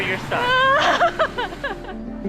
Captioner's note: laughs